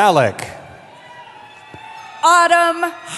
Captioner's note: cheering